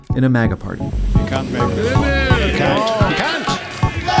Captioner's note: commentators exclaiming